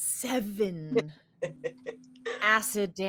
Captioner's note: laughs